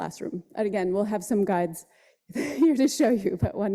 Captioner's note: laughs